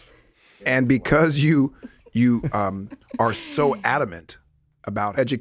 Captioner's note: laughs